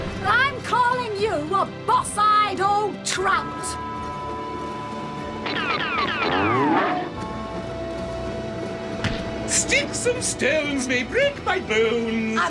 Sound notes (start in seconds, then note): 5.4 moo-woof!; 5.5 gunshots; 7.1 bell tolls